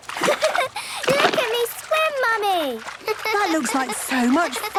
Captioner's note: giggles